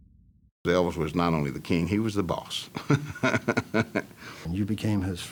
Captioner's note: laughing